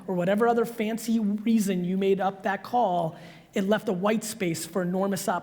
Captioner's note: none